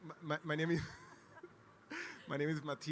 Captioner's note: laughs